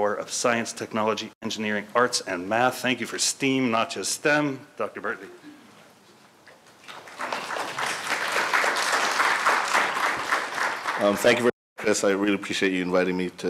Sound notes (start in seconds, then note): 6.8 audience applauds